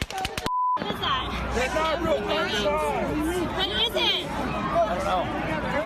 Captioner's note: gunfire